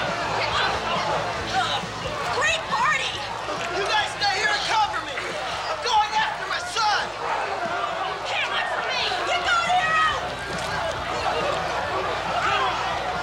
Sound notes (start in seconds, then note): 7.6 people yelling; 8.3 woman shouts